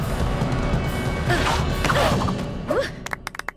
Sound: grunting

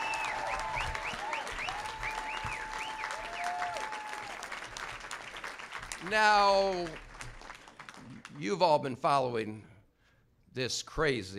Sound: applause

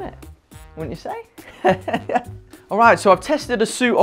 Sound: laughing

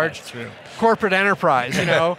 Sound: laughing

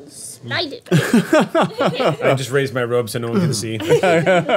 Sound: groups laughing

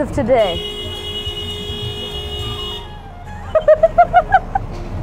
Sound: long and obnoxious car horn

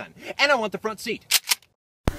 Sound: cocks gun

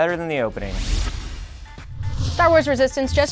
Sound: whoosh

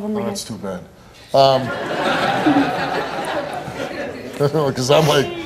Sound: audience laughing

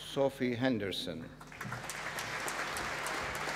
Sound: applause

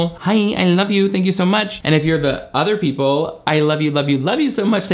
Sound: none

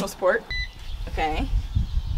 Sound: beep

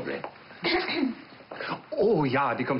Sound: servant clears throat

